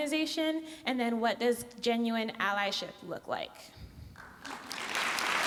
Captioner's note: applause